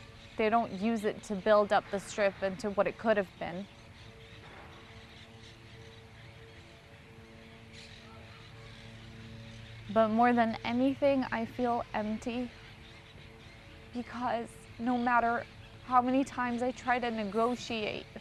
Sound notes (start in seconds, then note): 4.2 pauses 6 seconds